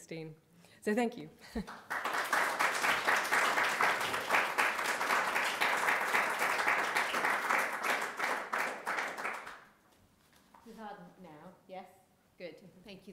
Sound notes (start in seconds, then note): 1.6 audience applauding